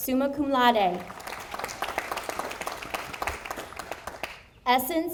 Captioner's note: audience applauding